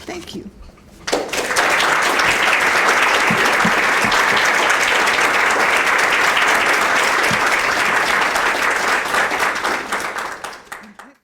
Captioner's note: applause